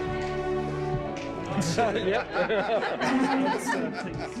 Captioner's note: crew laughing